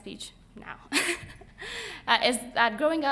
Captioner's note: laughing